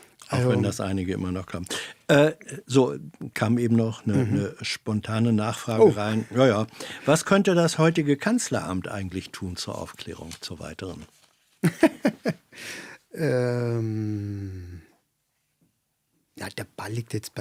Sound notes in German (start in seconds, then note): 3.9 räuspern; 11.6 gelächter